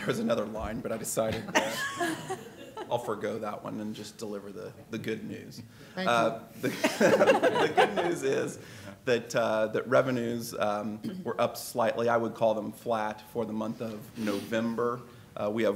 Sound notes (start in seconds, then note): 0.0 laughter; 6.6 laughter